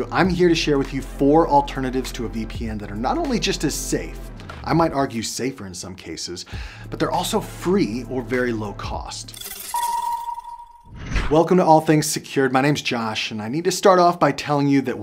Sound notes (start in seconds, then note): 10.6 logo whooshing